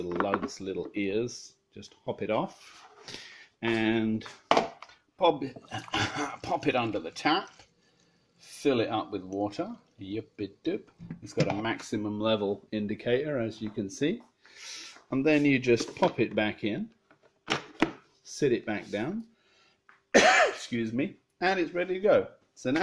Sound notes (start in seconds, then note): 20.1 cough